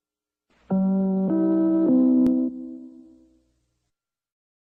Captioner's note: NBC chimes plays